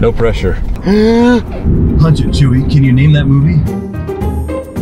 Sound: gasping

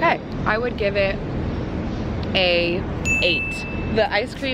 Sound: dings

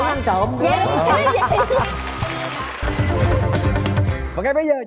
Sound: applause

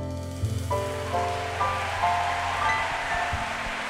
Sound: applause

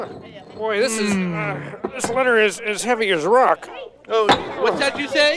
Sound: grunt

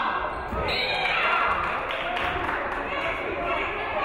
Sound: referee whistles

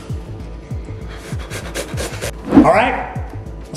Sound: heavy breathing

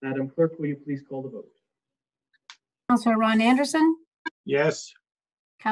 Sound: none

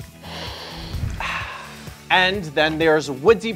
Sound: host sniffs and exhales

